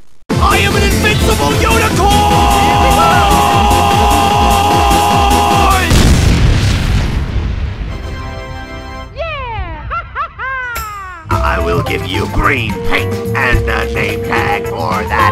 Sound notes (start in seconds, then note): 5.8 unusual explosion noise